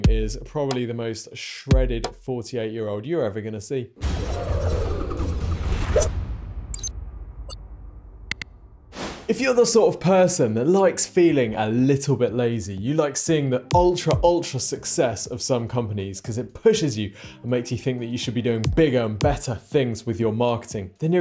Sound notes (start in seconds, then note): 4.5 graphic whirs; 6.7 graphic blips; 8.3 button clicks; 9.1 screen wipe whooshes